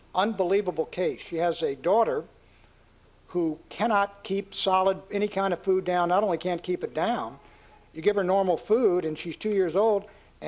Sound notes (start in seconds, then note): none